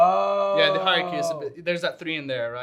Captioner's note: hums